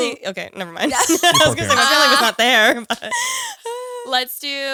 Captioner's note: laughs